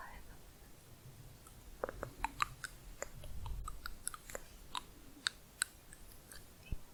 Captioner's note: varied tongue clicking